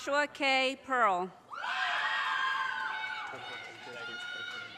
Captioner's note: audience cheers and applause